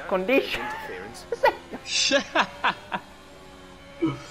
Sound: starts laughing again

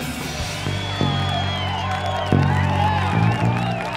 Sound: crowd cheers

